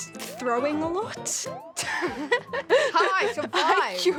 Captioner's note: laughs